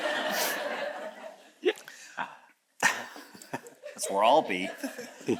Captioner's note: all chuckles